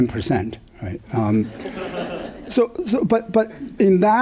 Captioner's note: laughter